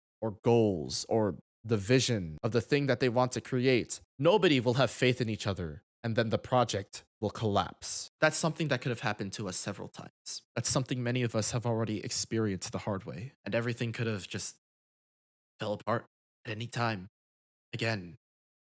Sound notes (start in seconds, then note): none